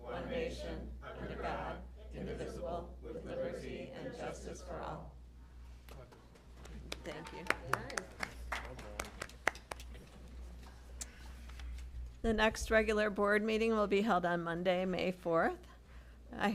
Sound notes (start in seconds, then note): 6.6 applause